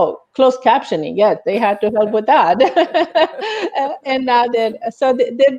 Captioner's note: laughs